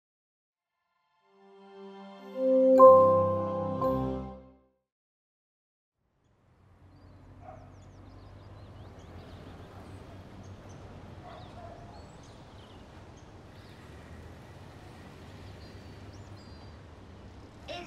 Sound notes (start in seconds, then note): 3.5 upbeat music; 6.8 birds chirping; 11.2 dog barking